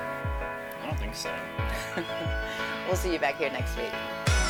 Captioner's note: chuckles